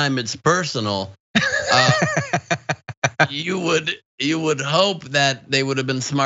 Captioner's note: laugh